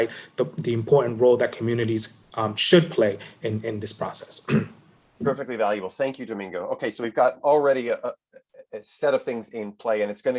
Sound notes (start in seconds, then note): 4.4 clears throat